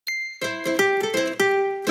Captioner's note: bell dinging; bright music